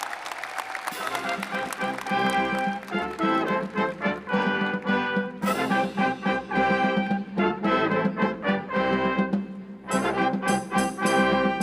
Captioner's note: cheers and applause